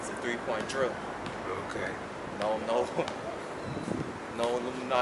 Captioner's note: chuckles